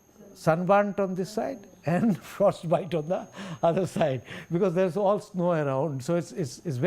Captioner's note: laugher